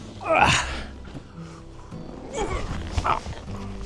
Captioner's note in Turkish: nefes nefese kalma